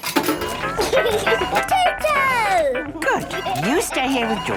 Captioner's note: giggling